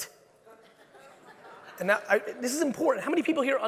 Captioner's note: audience laughing